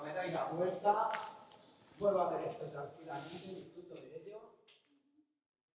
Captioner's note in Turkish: Yabancı dilde konuşma